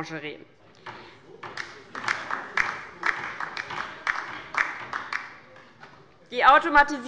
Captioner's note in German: Beifall bei der LINKEN